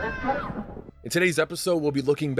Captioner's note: screaming sounds, lightning crashes